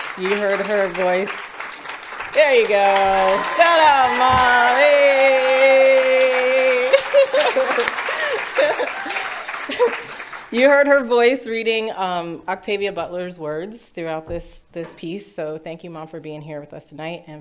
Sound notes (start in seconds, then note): 0.0 audience applauding; 0.0 laughs; 1.3 audience applauding; 2.8 audience cheers and applauds; 4.9 audience cheers and applauds; 5.7 laughs; 7.0 audience cheers and applauds